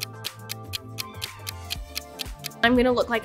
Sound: clock ticking

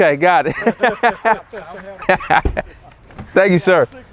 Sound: laughing

